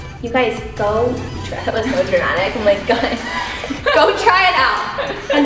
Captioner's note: chuckling